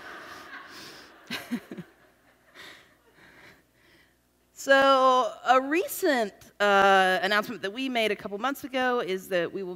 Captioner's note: laughs